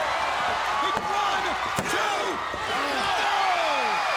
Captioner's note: hand pounding